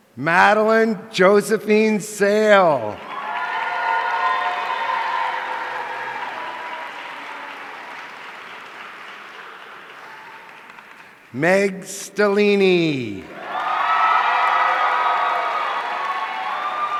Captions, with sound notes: Madeline Josephine Sale. (audience cheering) Meg Stellini. (audience cheering)